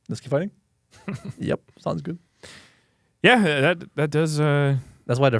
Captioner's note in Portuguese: risos